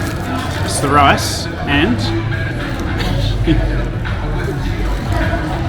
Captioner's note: laughing